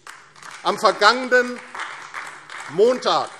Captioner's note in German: Beifall AfD